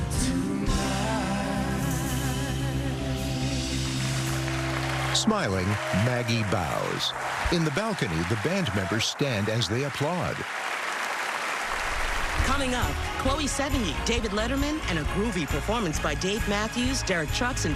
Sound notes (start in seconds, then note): 3.8 cheering and applause; 3.8 song ends